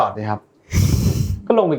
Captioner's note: laughs